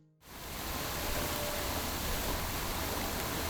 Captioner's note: water rushing